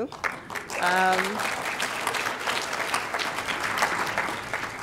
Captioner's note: audience applauding